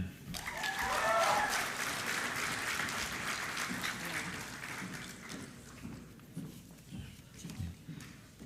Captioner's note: applause